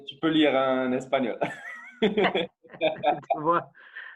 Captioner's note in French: rires